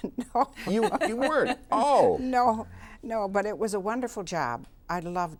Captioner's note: laughs